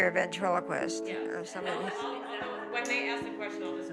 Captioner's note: laughing